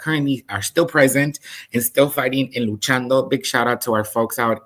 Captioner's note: speaks in Spanish